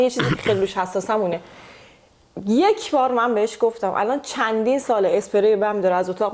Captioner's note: clears throat